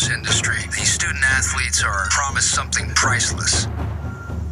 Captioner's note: voiceover